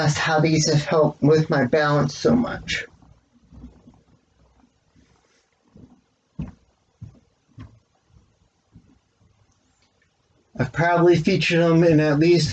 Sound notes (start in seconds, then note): none